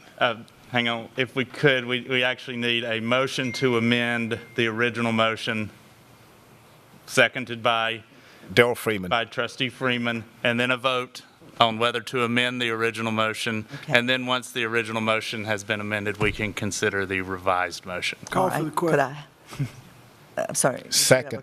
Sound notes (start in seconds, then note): 3.4 sound of text message coming through